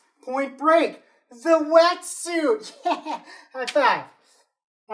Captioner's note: laughs